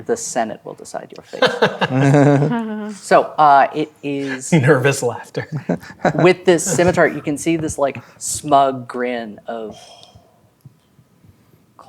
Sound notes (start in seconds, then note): 1.3 players laughing